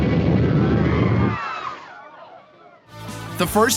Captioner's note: screams